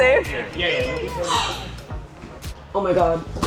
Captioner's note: echoing; gasps